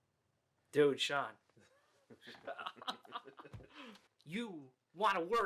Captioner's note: both laughing